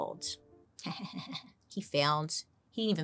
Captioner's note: chuckles